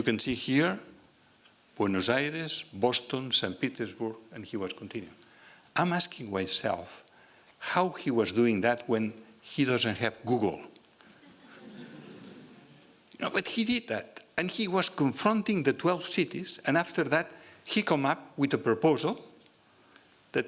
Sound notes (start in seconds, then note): 11.1 laughter